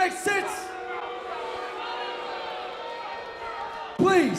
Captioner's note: crowd boos